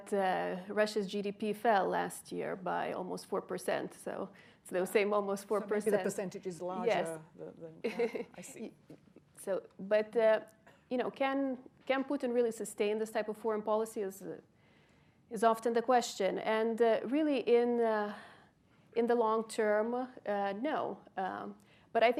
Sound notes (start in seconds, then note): 9.4 laughs